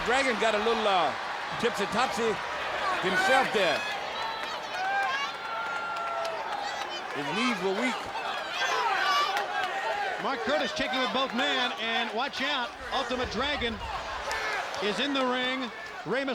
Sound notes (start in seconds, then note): 3.7 crowd yelling